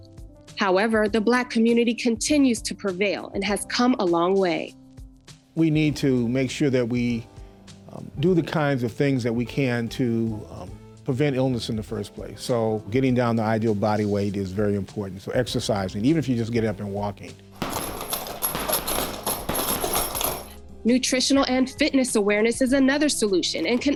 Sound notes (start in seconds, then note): 17.6 sound of punching bag